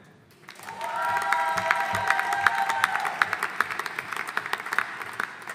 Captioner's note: audience applauding